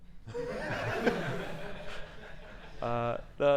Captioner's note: laughing